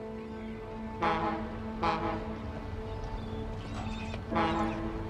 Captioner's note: boat horn tooting